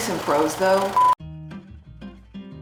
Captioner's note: beep; soft music